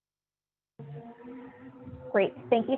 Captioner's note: car noise